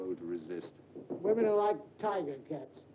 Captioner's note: knocking on door